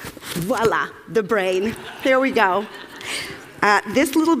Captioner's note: Laughter; 笑聲